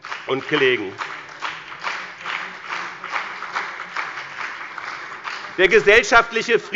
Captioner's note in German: Beifall bei dem BÜNDNIS 90/DIE GRÜNEN und der CDU